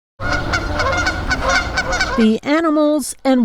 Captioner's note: birds chirping